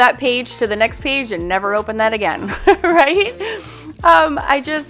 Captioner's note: laughs